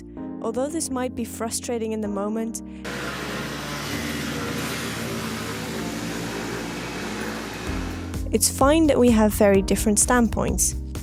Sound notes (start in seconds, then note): 2.9 motorcycle driving